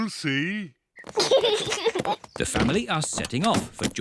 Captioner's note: oinks; kids giggle